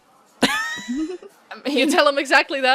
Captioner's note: laughter